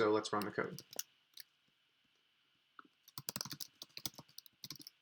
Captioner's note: keyboard clicking